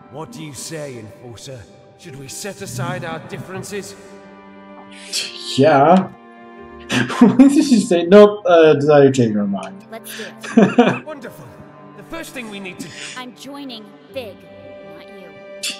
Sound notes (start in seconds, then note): 6.7 laughing; 10.1 laughs